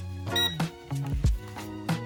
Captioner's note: ammeter pings; upbeat music